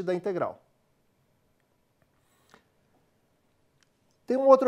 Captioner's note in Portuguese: pausa sonora